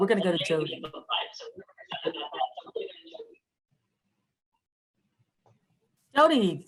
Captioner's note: attendee's speaker echoing